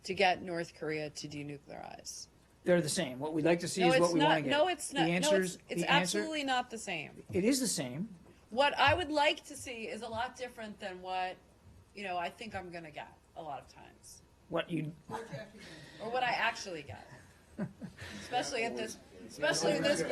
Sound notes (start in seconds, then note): 15.1 laughter